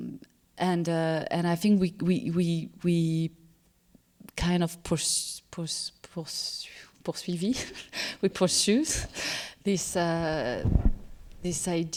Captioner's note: french